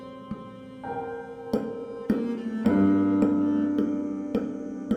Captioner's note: sound of metronome swinging